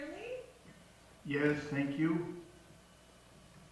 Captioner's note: voice on phone